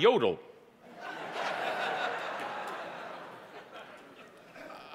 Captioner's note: audience laughing